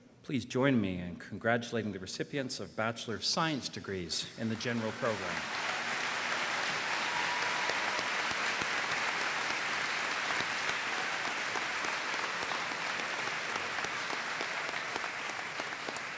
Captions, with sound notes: Please join me in congratulating the recipients of Bachelor of Science degrees in the General Program. [APPLAUSE]